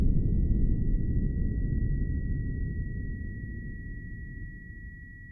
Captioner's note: atomic continues bomb rumbling; high-pitch ringing